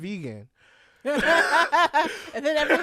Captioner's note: laughter